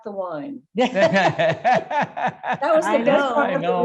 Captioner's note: laughing